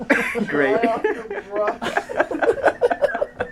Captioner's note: laughing; people laughing